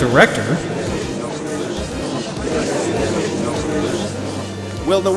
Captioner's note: gallery chattering